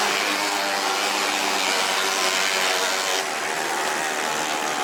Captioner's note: motorcycle running